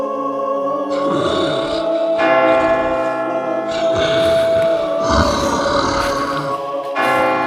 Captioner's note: creature breathing heavily; bell ringing